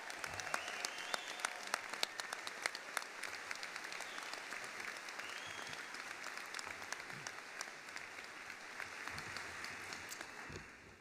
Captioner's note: applause